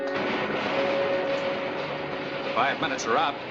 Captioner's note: machine rattling